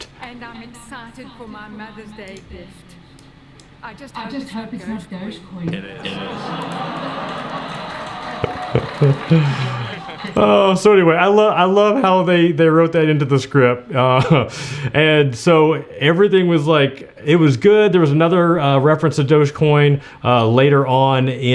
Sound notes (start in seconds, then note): 5.7 audience laughing; 8.7 laughs